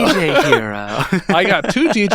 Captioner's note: laughing